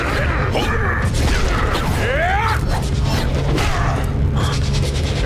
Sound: grunting; grunting

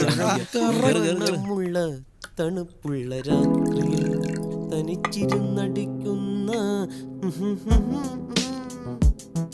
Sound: hymning a popular film song

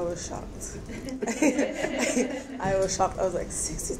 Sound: laughing

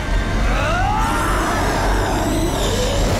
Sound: primal scream

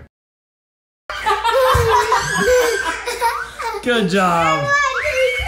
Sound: girls laughing

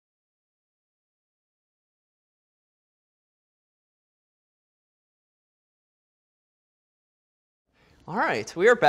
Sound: silence

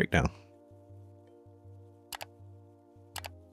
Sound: keyboard clicking

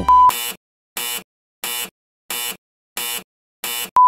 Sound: alarm buzzing

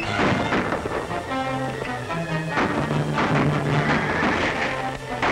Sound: gun shots

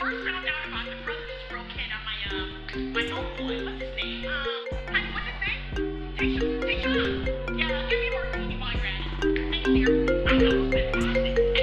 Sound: infomercial continues playing on TV; phone ringing

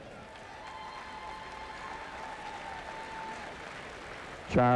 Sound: cheers, whistles, & applause

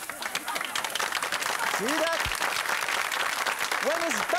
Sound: audience laughing; audience clapping

